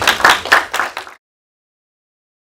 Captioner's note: applause